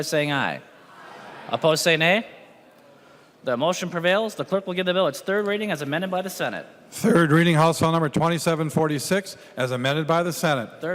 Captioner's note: chorus of ayes